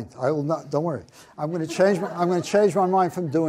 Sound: audience laughs

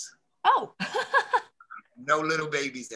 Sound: she laughs

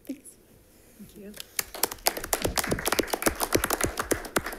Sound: crowd applauding

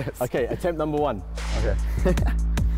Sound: chuckle

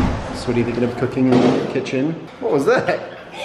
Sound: thudding

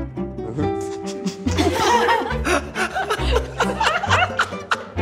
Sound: crew laughing

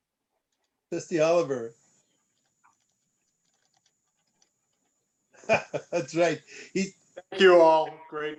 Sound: laughter

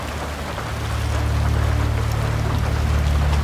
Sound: water dripping sound

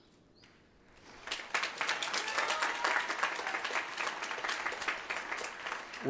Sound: applause

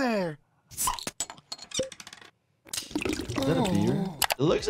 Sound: bottle pops

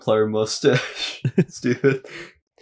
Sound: chuckles

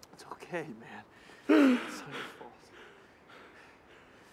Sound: sobbing

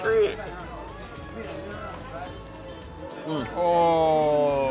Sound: bustling restaurant; traditional Iranian music; men moan

